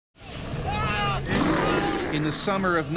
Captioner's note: man screaming